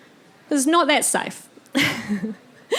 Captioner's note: chuckling